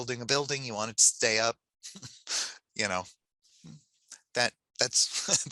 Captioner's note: laughs